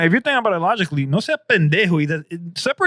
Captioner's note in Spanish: Hablando en idioma extranjero